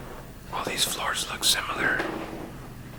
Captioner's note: whispers